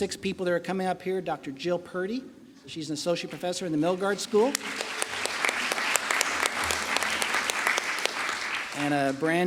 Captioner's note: applause